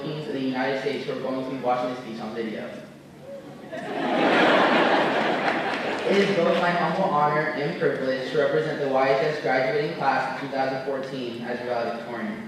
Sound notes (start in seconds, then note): 3.5 laughter